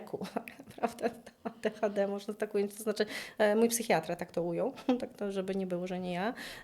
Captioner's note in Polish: śmiech